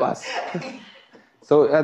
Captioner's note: laughs